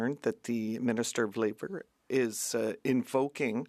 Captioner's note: speaking French